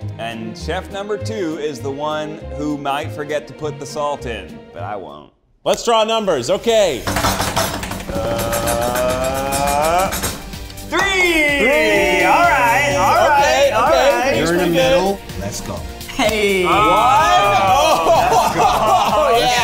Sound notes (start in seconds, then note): 6.8 all imitate drum rolling; 16.4 all cheering and laughing